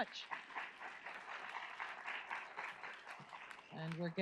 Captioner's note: audience applauds